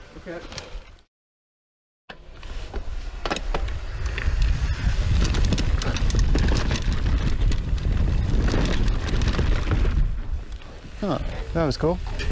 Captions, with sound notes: - This way's way better. (bicycle wheels rumbling) - Huh, that was cool.